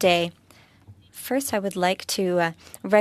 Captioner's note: speaking French